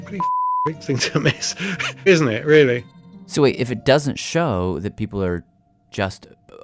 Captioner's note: laughs